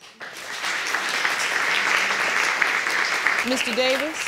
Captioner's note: audience applauding